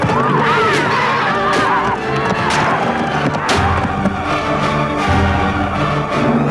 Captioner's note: spear crunching; woman groaning